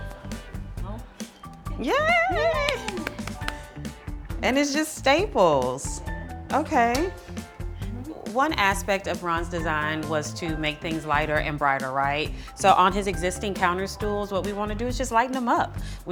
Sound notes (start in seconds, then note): 2.2 applauds